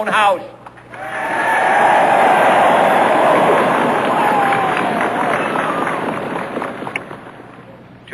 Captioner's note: applause